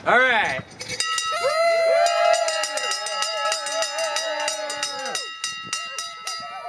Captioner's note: cheering